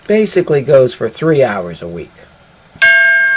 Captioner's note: ding